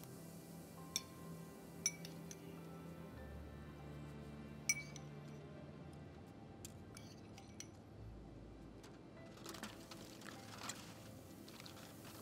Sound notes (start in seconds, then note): 1.8 spoon tinkling; 9.1 calming music